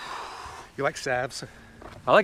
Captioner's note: Joel exhales sharply